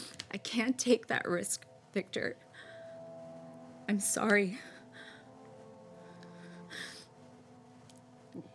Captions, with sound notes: I can't take that risk, Victor. I'm sorry. (weeps)